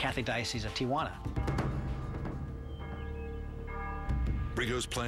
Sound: bell tolling

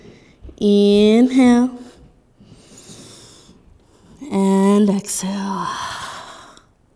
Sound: inhaling; exhaling

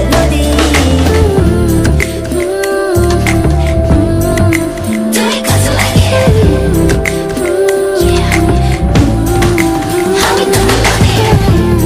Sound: humming the melody

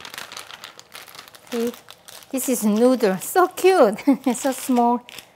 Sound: laughs

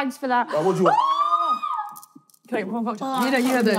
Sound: screaming

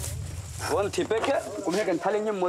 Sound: Portuguese spoken audio

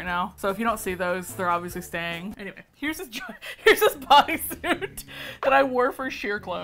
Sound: laughs

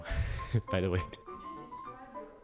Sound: laughs

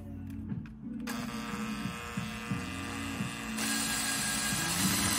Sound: drill whirring

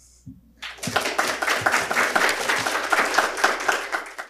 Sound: applause

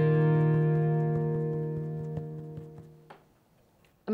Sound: foot tapping

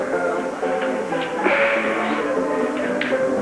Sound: ragtime piano music; sighs

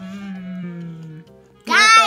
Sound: voiceover

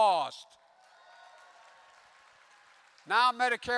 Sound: applause

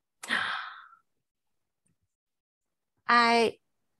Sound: gasping

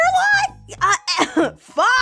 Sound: cough

